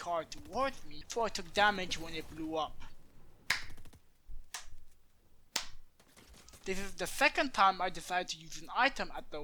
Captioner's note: slow clap